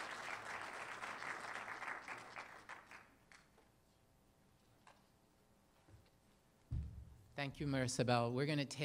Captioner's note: applause